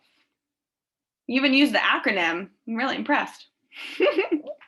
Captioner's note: laughs